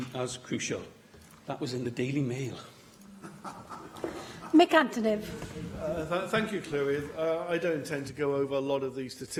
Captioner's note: laughter